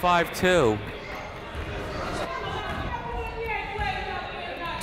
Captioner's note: crowd noise